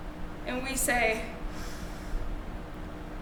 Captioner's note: deep breath